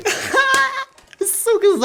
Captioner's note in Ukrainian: сміється